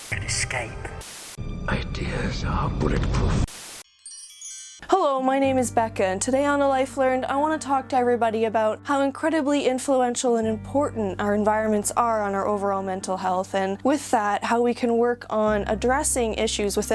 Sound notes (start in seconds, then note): 0.1 dramatic music; 1.0 static crackling; 3.4 static crackling; 3.8 logo chiming; 5.8 gentle music